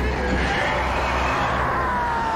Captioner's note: shrieking